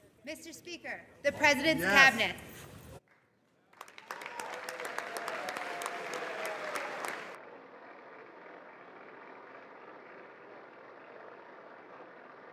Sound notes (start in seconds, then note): 4.5 applause